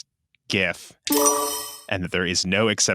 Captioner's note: clinking